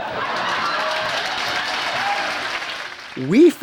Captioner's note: crowd cheers